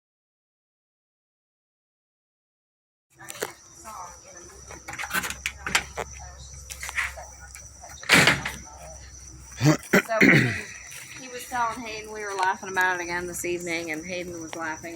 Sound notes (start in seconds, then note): 9.6 clearing his throat